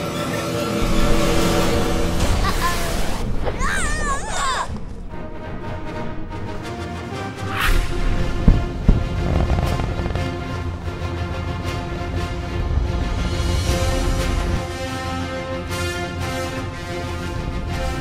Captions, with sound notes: [suspenseful music] Uhoh! Arghhh!!! [heroic music] [two sonic booms] [heroic music continues]